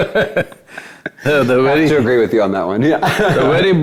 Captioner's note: laughs